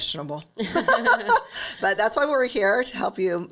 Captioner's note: laughs